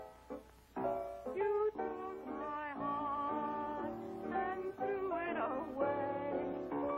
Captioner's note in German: STIMME bricht